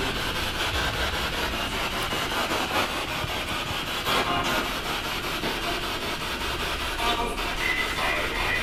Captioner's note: radio noise from the spirit box